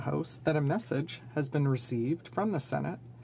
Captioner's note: speaking French